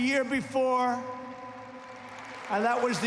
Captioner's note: applause